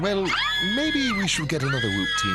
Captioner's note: girls screaming